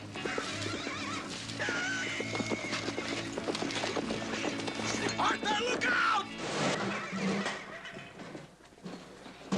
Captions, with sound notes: ARTHUR, LOOK OUT! ( metal crashing )